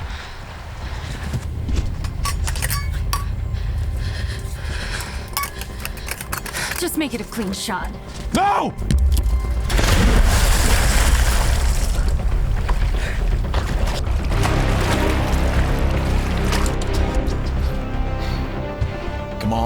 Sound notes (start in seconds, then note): 1.9 metallic rattling; 3.1 Dottie breathing shaking; 9.5 water splashes; 12.9 tense music; 15.3 suspenseful adventure music